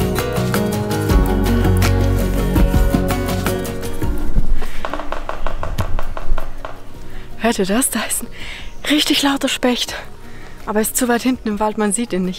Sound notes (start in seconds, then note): 4.7 loud knocking in the forest